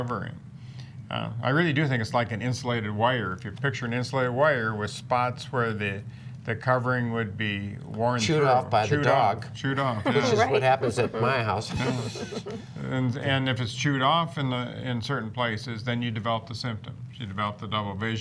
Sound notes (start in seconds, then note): 12.0 laughter